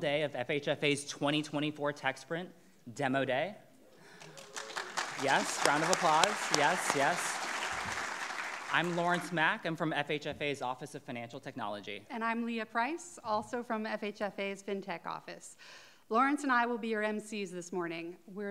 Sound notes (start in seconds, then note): 4.1 clapping; 4.1 audience cheering and clapping